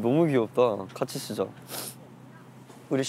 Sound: sniff

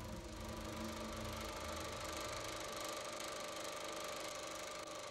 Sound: film reel rolls

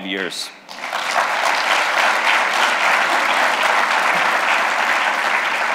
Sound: applause

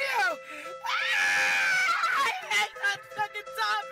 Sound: Crystal screaming

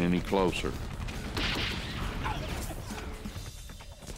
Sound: gunshots

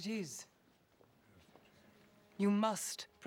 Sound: whispers

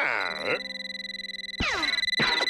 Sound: telephone rings

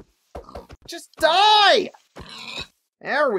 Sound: pig oinks

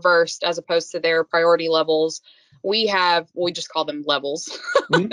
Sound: laughing

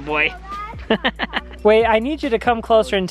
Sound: laughs

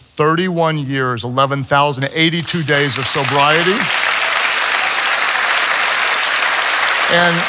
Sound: congregation applauds

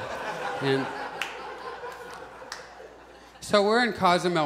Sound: audience laughs

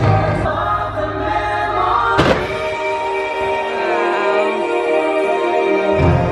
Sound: fireworks bang

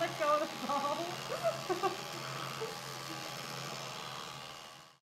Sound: laughing

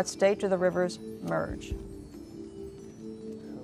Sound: whispering

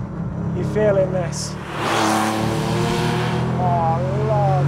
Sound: engine roars

